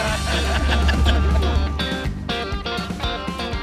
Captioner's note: laughing